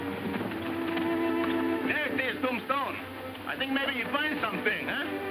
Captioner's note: speaking foreign language